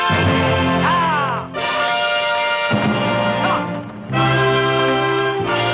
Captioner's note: calls directing the horse